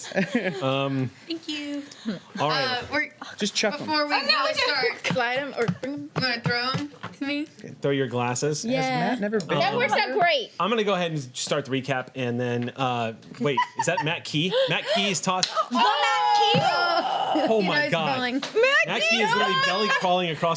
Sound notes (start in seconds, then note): 15.5 cheering